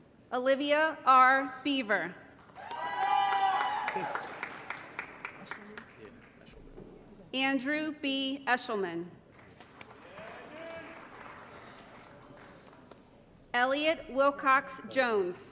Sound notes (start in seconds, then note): 2.4 applause & Cheering; 9.3 applause